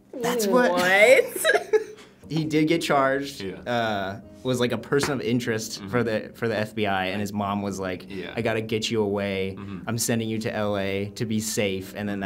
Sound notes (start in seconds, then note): 0.9 both laugh